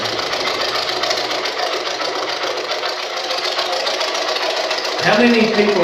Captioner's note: white Noise